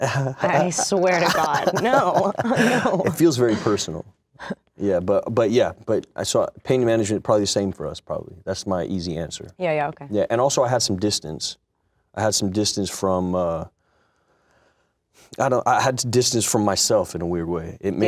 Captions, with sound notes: - This guy, I swear to god, no, no. - (laughs) It feels very personal. But yeah, but I saw it, pain management, probably the same for us, probably, that's my easy answer. And also I had some distance, I had some distance from myself, in a weird way, it made me an object.